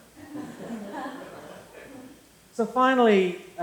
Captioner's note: laughter